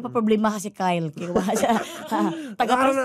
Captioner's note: laughing